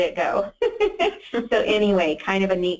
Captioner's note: laughs